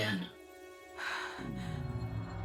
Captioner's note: gasp